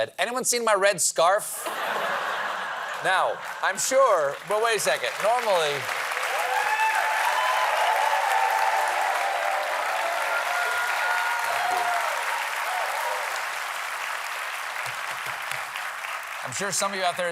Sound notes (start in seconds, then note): 7.8 cheers and applause